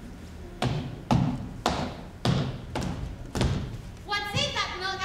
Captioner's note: feet stomping